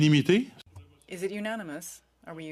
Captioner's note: speaking French